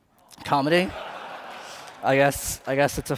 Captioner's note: laughter